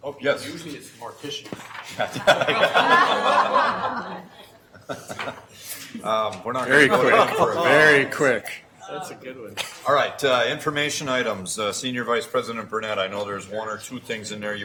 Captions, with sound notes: Oh, yes? - Usually it's the morticians. (laughing) - Very quick. Very quick. - That's a good one. - All right, information items. Senior Vice President Burnett, I know there's one or two things in there